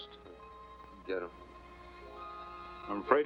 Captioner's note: Quirt mumbles